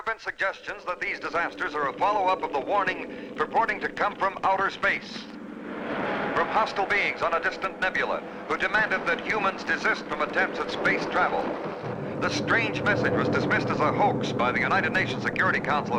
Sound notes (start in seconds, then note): 4.4 radio Announcer